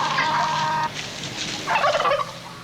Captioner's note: gobbling